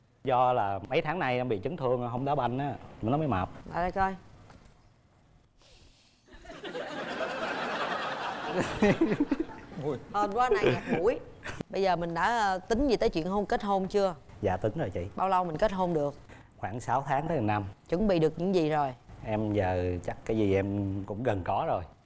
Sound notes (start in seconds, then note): 6.3 laughing